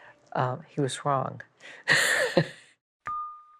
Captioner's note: laughs